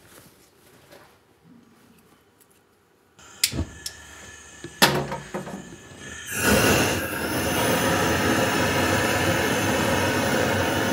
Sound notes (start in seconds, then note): 3.2 hissing